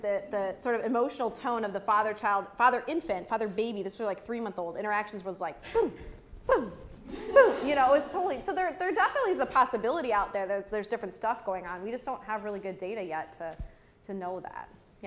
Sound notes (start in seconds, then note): 7.0 laugh